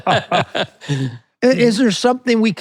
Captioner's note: both laughing